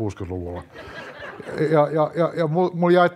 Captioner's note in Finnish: yleisö nauraa